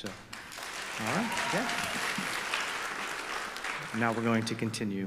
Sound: audience applause

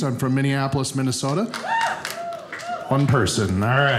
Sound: audience member cheers

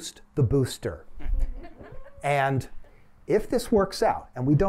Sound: laughter

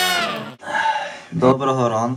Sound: sighs heavily

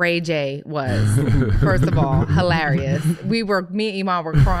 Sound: laughing

